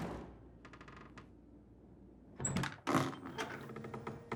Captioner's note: door slams